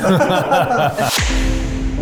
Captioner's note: everyone laughs; upbeat music